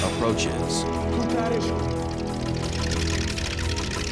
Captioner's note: speaking foreign language